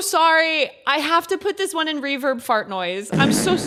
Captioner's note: reverb fart noise